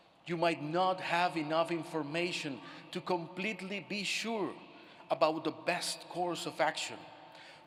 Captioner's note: none